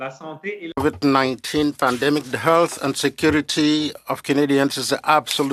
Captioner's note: speaking French